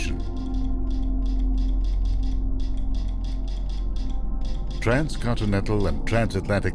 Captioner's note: tapping sounds